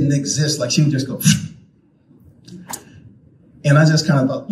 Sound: smacks lips

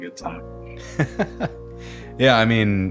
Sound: laughing

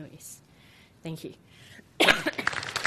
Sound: coughs; audience applauds

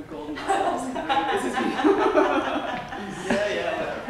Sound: laughter

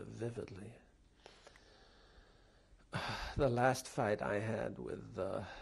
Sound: pauses for 3 seconds

